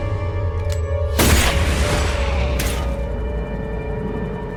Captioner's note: gunshot fires